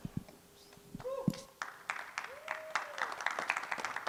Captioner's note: cheering, applause